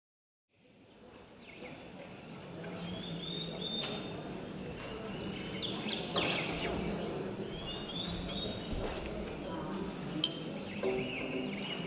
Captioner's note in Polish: śpiew ptaków, stuki z sali